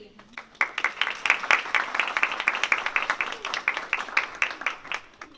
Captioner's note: applause